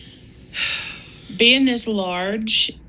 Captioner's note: sighs